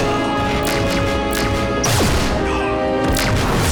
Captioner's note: gunshots